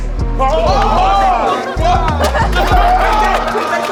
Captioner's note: shouting